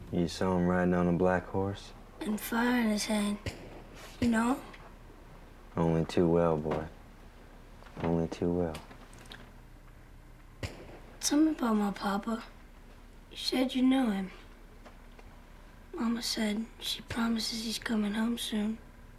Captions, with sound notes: - You saw him riding on a black horse? - And fire in his hand. Do you know him? - Only too well, boy, only too well. (gunfire) - Tell me about my papa, you said you knew him. Mama said, she promises he's coming home soon.